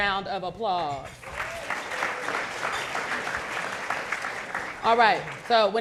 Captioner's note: audience clapping